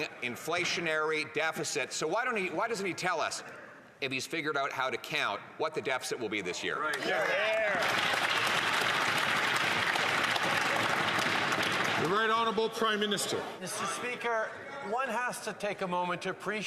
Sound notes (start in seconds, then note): 12.1 some Applause